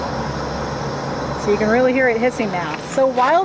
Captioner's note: hissing